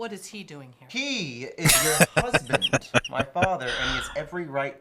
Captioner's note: laughing